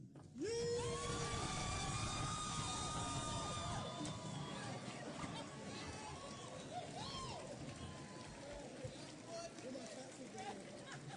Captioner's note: applause and Cheering